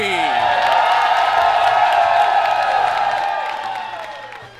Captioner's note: audience cheers